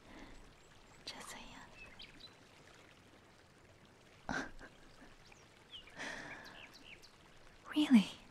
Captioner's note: chuckles